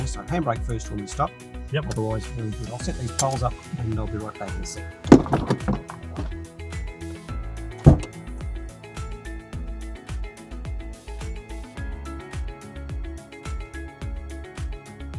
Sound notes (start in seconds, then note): 5.0 belt thudding; 5.1 door opening; 7.8 trunk opening; 11.0 gentle electro music